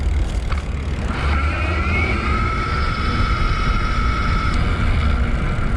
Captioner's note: wheel pattering